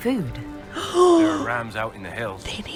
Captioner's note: deeply Incredulous Gasp